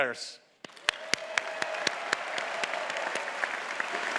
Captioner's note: audience clapping